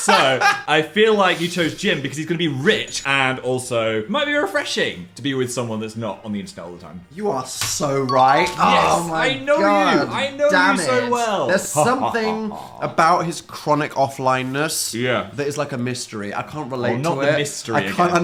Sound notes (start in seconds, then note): 0.0 Dan laughing drowning out Phil speaking; 8.0 bell chiming